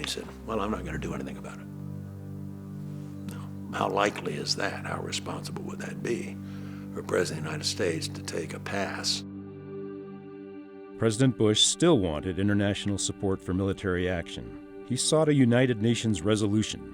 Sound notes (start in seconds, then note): 10.8 voiceover